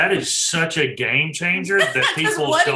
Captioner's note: laughing